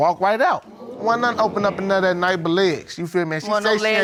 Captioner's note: audience exclaiming